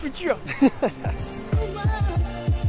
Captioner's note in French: rires